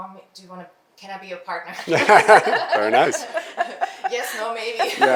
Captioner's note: all laugh